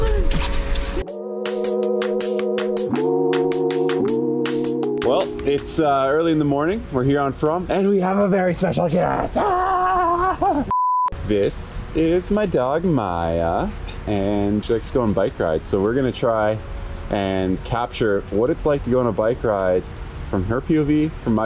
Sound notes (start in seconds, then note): 8.9 imitating excited dog barks